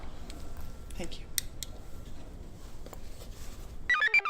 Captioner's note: computer chirps; device beeps